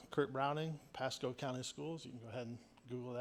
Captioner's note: none